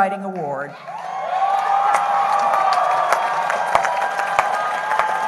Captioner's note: cheering